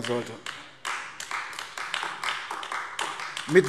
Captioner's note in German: Beifall AfD